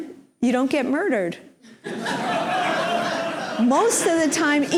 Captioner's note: laughter